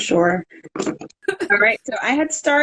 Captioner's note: laughing